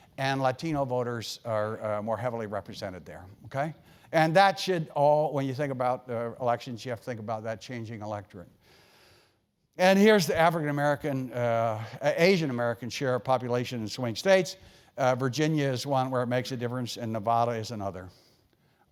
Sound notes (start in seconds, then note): none